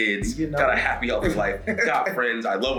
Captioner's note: laugh